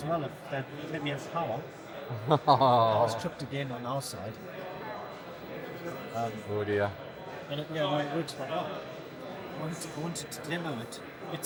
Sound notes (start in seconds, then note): 2.1 laughing